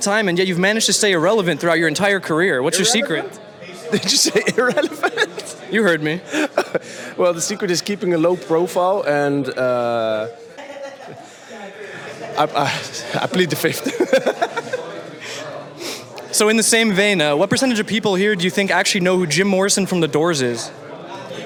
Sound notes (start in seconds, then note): 13.8 laughs